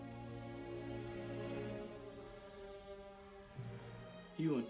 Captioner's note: birds singing